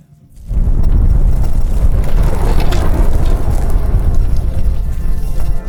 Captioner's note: fire blazing